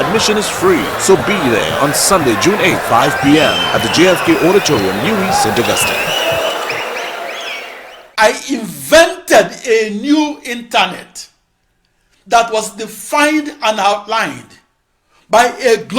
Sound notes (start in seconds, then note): 5.1 wild applause and cheering for 22 seconds